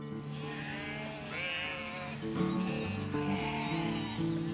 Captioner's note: sheeep sound